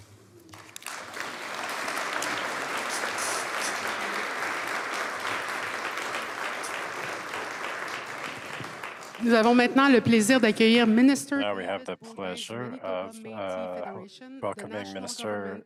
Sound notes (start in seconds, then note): 0.4 applause; 9.4 speaking French